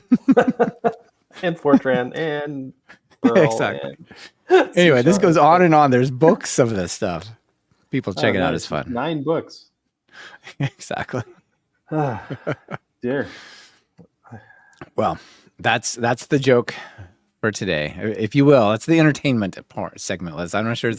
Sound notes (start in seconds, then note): 1.3 laughing; 9.9 laughing